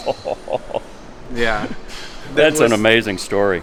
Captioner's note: laughing